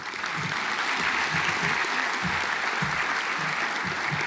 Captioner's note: audience applauds